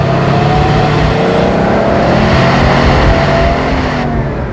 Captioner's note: Turbo at full boost